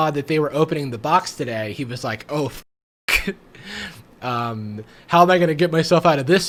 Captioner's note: laughs